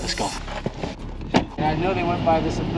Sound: door thuds

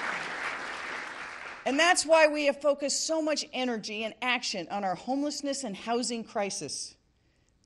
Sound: applause

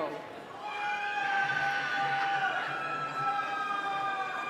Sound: cheering

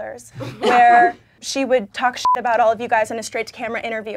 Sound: beeping

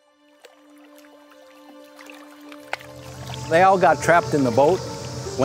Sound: water sloshing

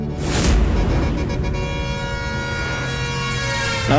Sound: horn blares

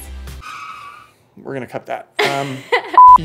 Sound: laughing

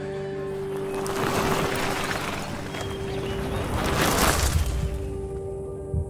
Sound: bicycle tire drumming

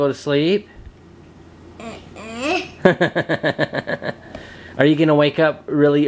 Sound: laughs

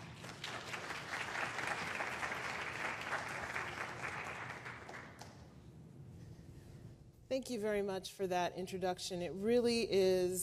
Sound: applause

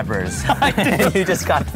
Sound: laughs

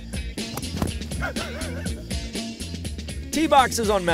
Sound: cameraman laughs

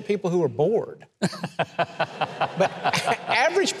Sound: host and audience laughing

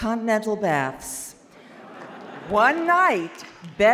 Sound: audience laughs

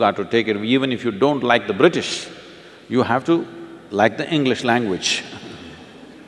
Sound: few laugh

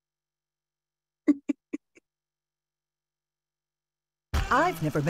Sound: laughs

